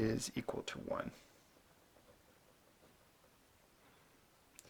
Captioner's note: writing